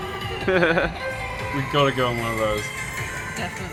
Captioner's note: laughs